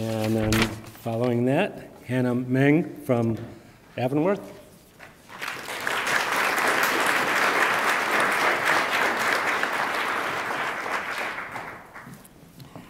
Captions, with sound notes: And then, following that, Hannah Mang from Avonworth. (attendees applaud)